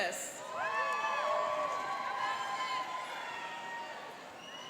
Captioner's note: cheering and applauding